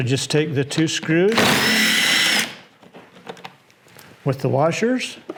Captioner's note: drill whirring